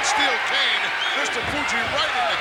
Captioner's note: crowd cheers